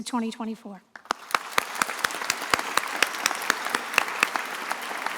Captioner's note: attendees applauding